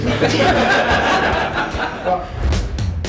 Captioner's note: laughs